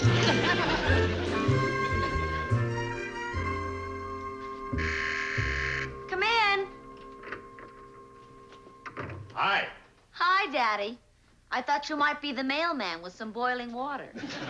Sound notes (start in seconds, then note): 5.0 doorbell buzzes; 7.6 door closes